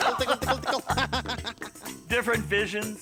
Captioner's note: laughing